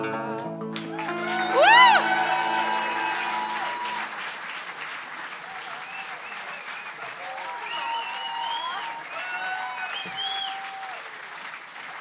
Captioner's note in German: Applaus